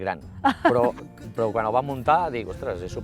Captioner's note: laughter